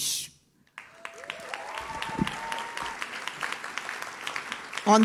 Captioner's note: audience cheers